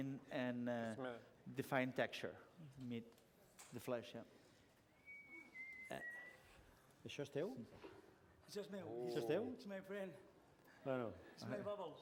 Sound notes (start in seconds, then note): 4.8 whistling; 8.0 non-english speech